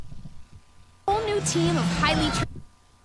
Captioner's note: yelling